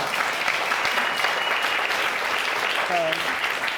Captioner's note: audience applauding